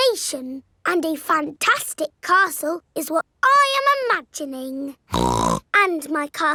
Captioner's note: snorts